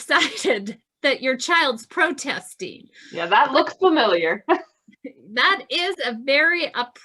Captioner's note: laughs